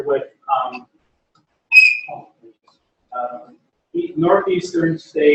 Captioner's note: pause